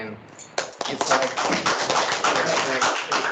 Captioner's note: clapping